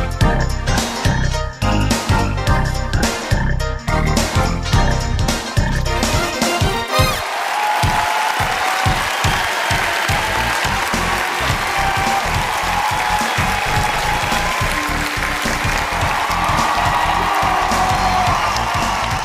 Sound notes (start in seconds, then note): 0.0 upbeat music; 8.1 cheering